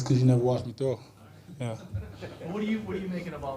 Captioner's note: people laughing